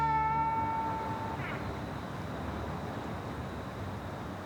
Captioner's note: wind rushing